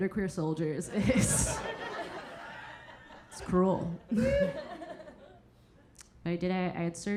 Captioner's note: audience laughing